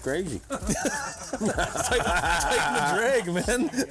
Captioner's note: group laughs